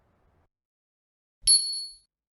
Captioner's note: bell dings